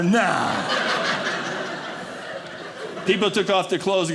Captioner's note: audience laughing